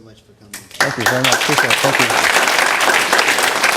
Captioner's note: applause